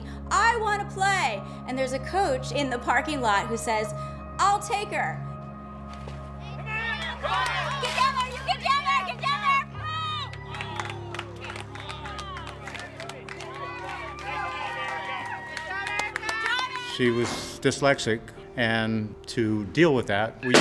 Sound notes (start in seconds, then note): 6.7 team and others yelling; 10.0 people clapping